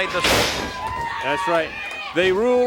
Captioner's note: body thuds